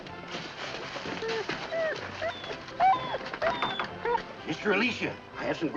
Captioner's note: dogs whining